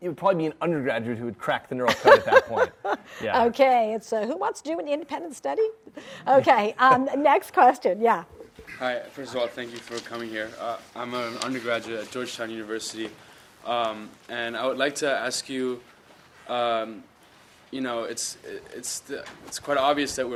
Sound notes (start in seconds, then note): 1.9 laughs